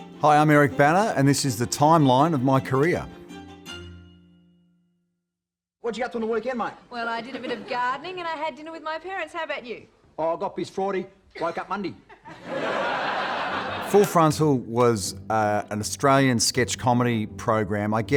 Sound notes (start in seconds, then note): 3.1 upbeat instrumental music; 12.1 audience laughing